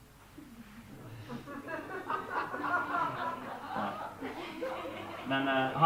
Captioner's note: laughter